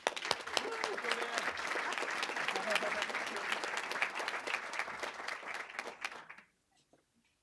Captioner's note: applause